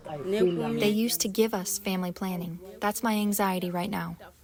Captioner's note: through translator